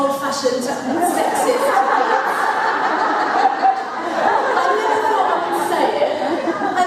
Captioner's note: laughter